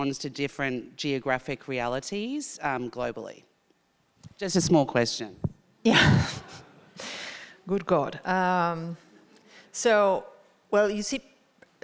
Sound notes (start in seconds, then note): 5.9 chuckles; 6.9 audience laughing